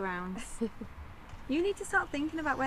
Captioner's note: Tilly laughing